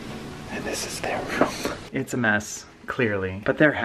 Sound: whispering

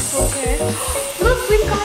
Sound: hair dryer blowing

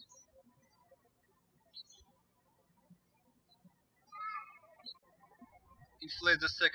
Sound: birds chirping

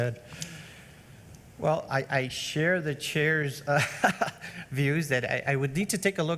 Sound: laughs

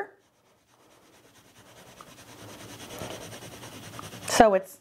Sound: pencil scribbling

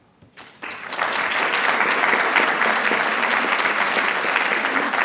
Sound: attendees applauding

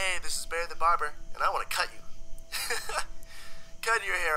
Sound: laughs

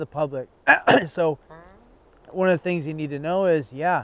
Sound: coughing and farting

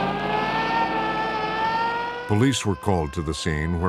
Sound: siren blaring

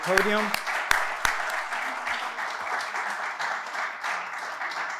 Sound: applause

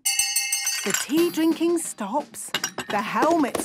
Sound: hand bell ringing; tea cups clinking

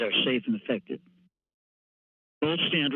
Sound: pause

